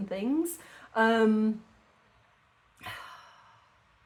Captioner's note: sigh